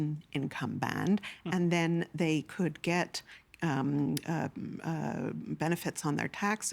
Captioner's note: stammering